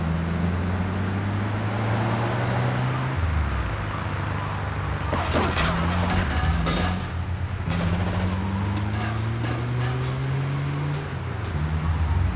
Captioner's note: tires screeching